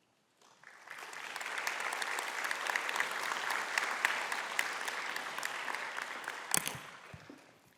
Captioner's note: applause